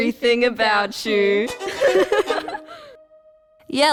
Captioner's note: both giggle